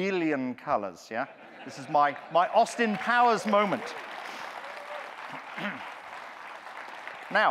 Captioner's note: audience clapping, cheering